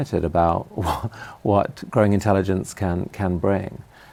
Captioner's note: laughs